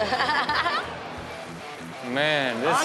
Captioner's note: audience laughs